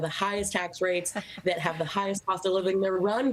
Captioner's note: laughter